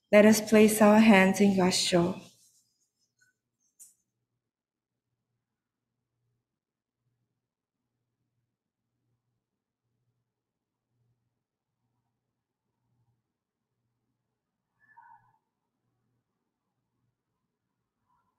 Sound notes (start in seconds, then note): 3.7 moment of silence